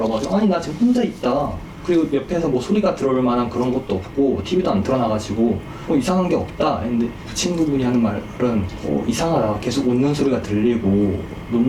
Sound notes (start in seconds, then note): none